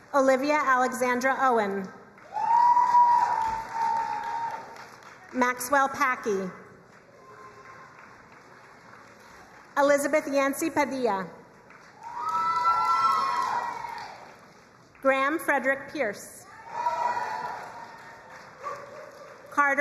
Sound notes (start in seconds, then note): 2.2 crowd cheering and applauding; 6.9 crowd applauding; 11.6 crowd cheering and applauding; 16.4 crowd cheering and applauding